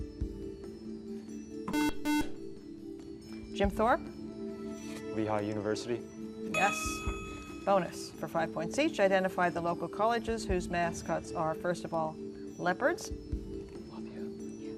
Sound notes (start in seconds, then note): 1.7 buzzer